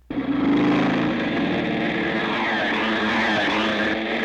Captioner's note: engines revving